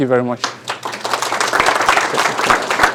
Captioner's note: applause